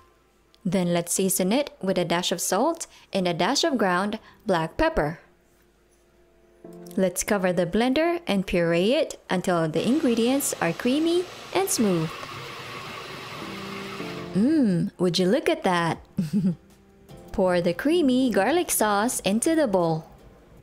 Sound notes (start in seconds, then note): 12.6 blender grinding; 16.2 soft chuckle